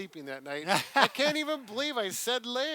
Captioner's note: laughs